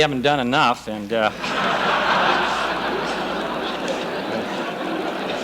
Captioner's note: laughter